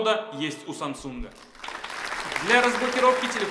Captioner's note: applause